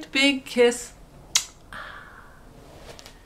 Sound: kissing sound

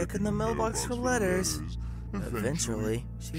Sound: frustrated growl

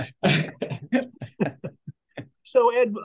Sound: people laughing

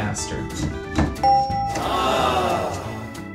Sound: ding; crowd ahhs

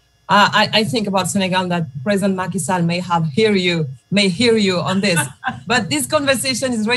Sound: laughter

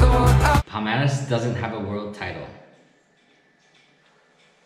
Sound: saying in english

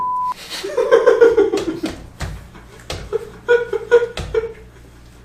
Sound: stamping of joy

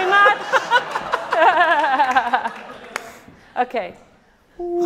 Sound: audience laughing

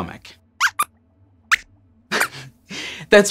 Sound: squeaks squeaks

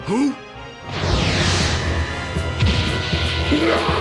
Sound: flying electricity

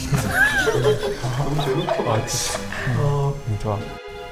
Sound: haha

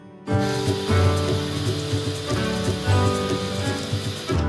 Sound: sizzling oil

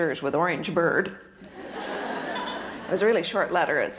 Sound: audience laughter

